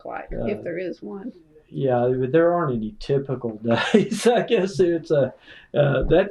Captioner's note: laughter